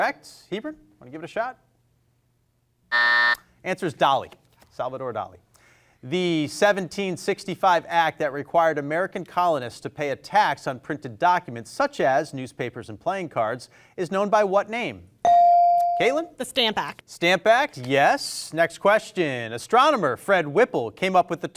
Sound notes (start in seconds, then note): 2.9 buzzer ringing; 15.2 bell rings